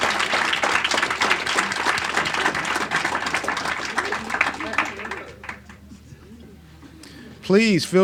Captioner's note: applauds